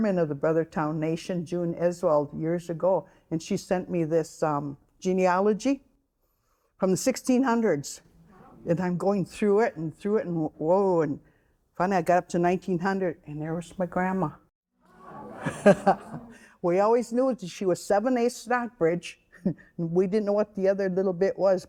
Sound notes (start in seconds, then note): 14.9 audience exclaiming; 15.0 laughing